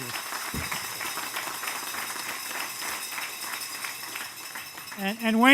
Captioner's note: applause